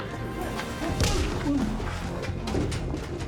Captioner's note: groan; punch